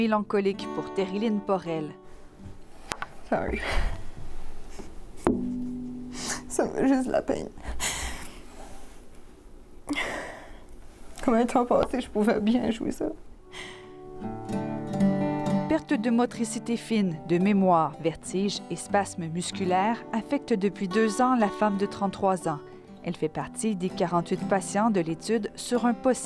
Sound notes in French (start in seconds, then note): 9.9 sanglots